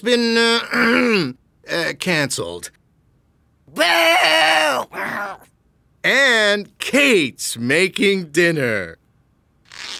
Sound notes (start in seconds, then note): 5.5 grumbling